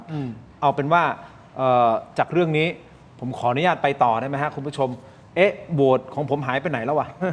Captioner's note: clears throat